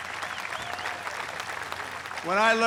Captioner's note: applause